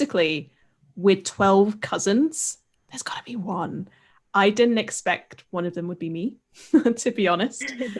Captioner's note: laughs